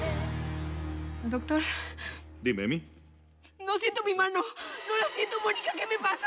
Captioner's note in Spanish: sollozos